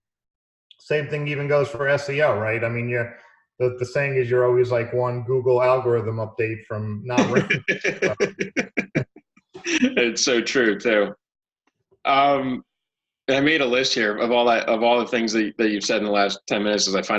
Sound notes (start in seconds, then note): 7.1 laughing